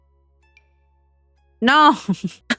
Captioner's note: laughs